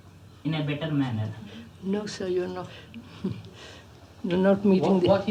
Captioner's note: laughs